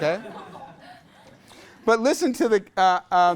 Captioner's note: class laughs